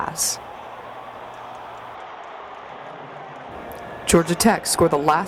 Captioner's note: crowd noise and cheering